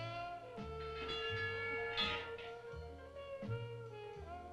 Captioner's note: chimes clanging